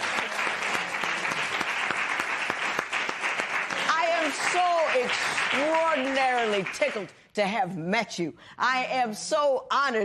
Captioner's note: applause